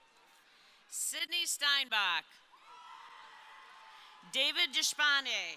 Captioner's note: crowd cheering